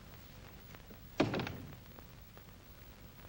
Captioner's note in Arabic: يغلق الباب